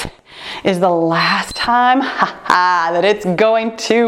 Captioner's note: timer beeps